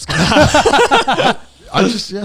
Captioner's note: everyone laughs